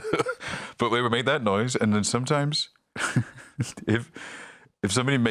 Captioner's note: laughs